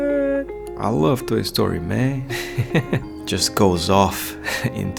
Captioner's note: laughs